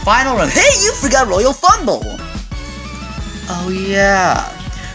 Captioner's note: sigh